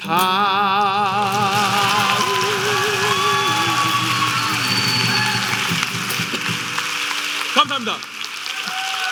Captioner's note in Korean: 박수 및 환호